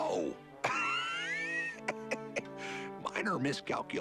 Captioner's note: laughing